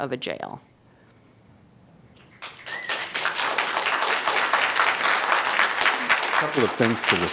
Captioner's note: applause